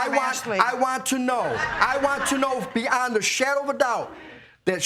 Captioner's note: audience laughing